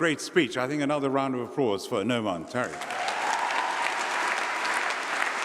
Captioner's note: applause